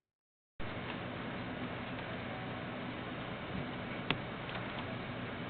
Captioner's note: keyboard keys clanking